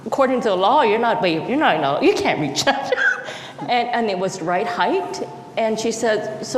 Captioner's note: laughs